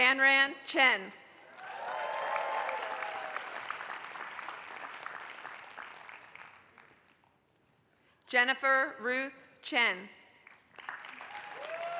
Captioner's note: applause; applause